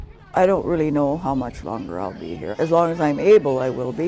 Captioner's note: pat